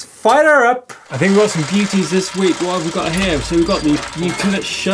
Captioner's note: gear noises